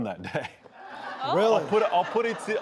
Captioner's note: laughing